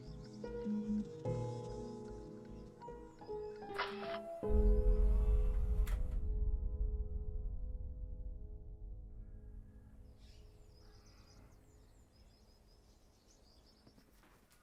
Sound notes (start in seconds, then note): 3.8 camera clicks; 9.6 birds chirping